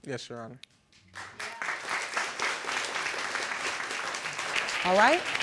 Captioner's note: audience applauding